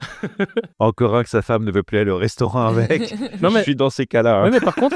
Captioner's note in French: Rires